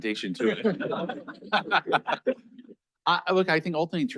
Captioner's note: all laughing